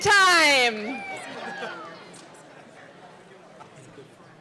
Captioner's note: audience cheering